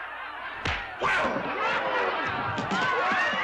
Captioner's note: crowd laughs; loud pop; crowd woos & laughs